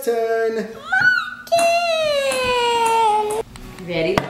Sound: screaming

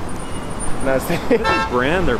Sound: laughing

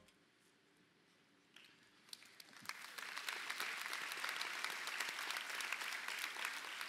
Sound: applause

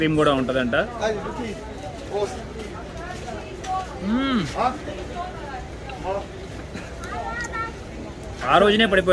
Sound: eats

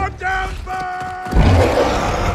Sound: yelling battle cry

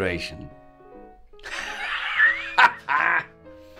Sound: laughs wildly

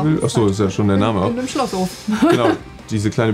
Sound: chuckles

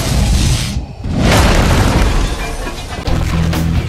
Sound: crash!

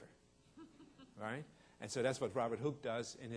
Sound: audience laughing

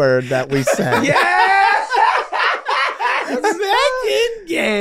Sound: everyone laughing

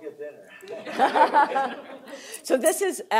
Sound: laughter

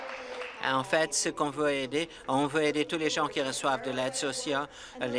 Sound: applause

